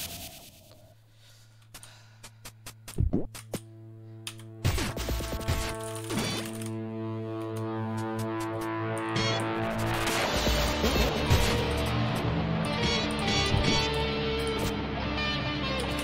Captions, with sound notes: *SIGH* *INTENSE KEYBOARD PRESSING* While your here, you can also watch Subway Surfers at the bottom right of the screen